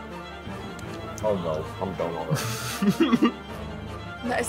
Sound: laughs

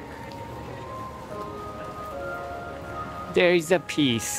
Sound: chimes in background

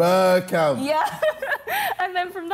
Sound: giggling

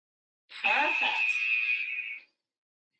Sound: alarm blares

